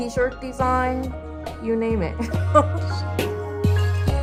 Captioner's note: laughs; gentle music